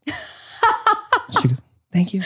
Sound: laughing

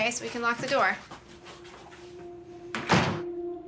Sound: door shuts; phone rings

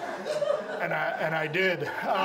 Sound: audience laughs

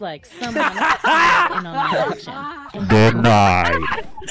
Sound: laughter

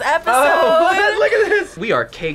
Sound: laughs

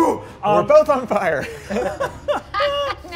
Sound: laughing

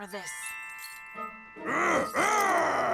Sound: growling

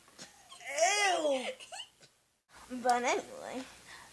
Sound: laughs

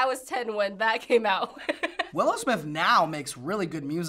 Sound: laughs

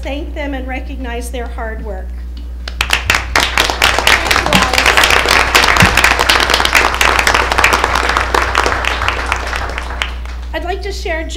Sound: applause

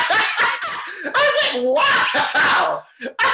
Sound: chuckles loudly

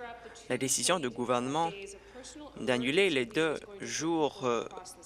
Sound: none

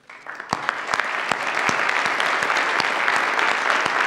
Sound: audience applauds

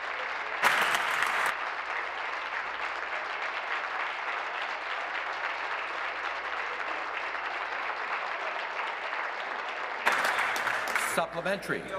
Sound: applause

